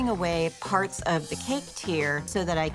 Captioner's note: screen whooshing